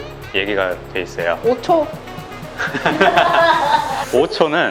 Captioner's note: laughter